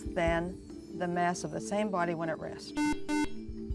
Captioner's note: beep